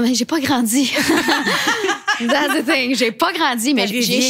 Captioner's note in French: rires